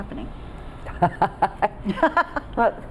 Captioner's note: laughing